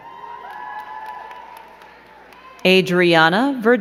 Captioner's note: crowd cheering and clapping